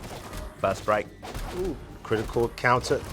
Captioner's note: blows thudding